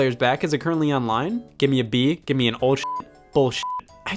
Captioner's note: beep